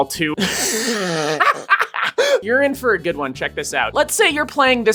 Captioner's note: disgusting, hacking laughter